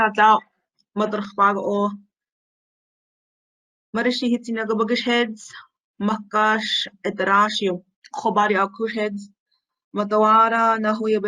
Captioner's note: Speaking Hidatsa